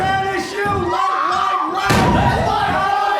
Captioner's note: everyone screaming